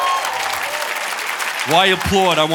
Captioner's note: audience cheering and applauding